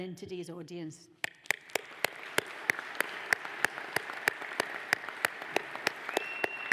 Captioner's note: audience applauds